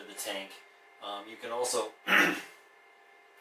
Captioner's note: clears throat